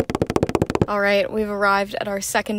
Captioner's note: feet Running Sound